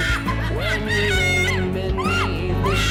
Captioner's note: screaming